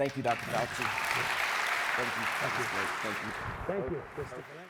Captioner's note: audience applauds and cheers